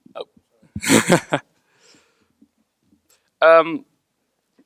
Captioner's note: laughs